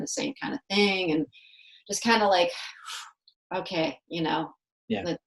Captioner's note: blows